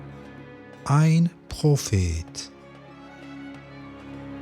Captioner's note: german